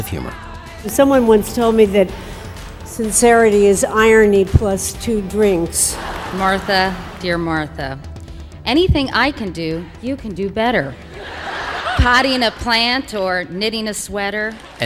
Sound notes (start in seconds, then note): 10.8 audience laughing